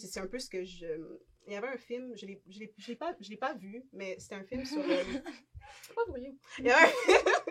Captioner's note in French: rires